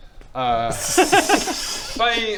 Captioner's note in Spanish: risa incómoda